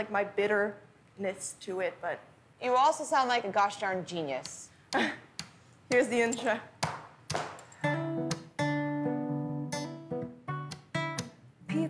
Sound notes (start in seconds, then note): 4.8 taps on guitar; 5.0 laughs; 7.3 boots clacking on floor; 7.8 guitar plays